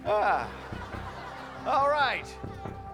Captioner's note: sighs